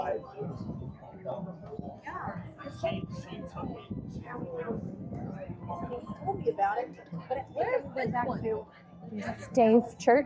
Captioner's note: people chattering